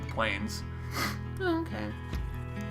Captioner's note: sniffs